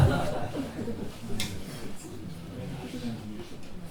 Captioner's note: laughter